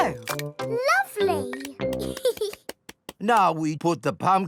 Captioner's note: giggles